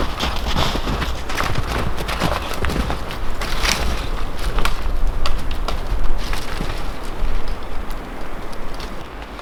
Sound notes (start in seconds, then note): 3.8 twigs snapping